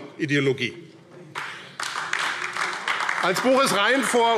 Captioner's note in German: Beifall AfD